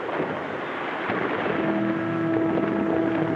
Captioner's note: water splashes; tense music